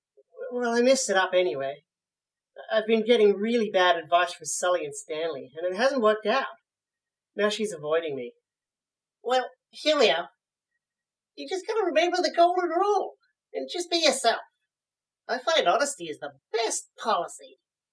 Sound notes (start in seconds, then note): none